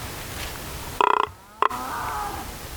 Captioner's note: blowing grunt call